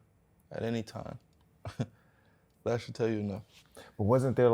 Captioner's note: chuckles